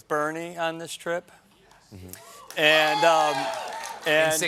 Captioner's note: cheers and applause